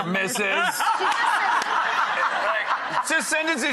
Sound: audience laughing

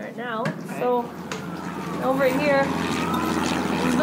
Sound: planes overhead

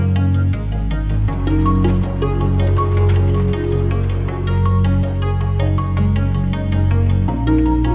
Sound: upbeat music; car rustling

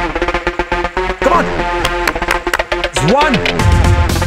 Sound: clapping

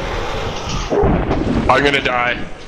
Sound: thwoop!

